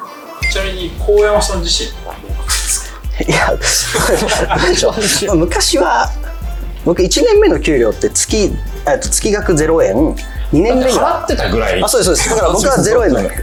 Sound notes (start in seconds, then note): 4.1 laughs